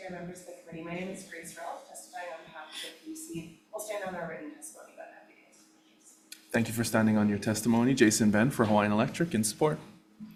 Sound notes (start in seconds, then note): 5.4 speaking faintly